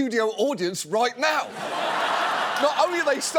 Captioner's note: audience laughs